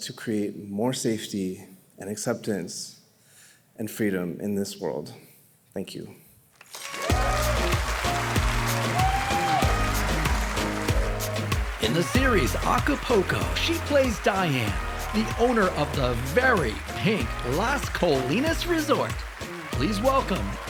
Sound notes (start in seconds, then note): 7.3 audience cheering; 7.3 cheerful music